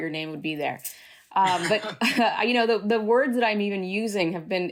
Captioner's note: laughter